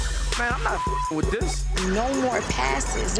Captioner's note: beeps